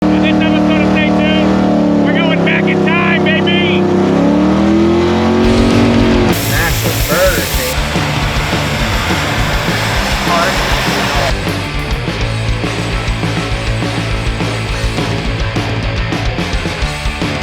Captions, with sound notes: (engines revving) - Stay tuned. We're going back in time baby. (upbeat rock music) (static buzzing) - Natural. - Hard? - No. (upbeat rock music continues)